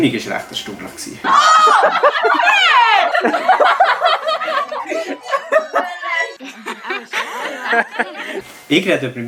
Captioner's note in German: Viele Menschen lachen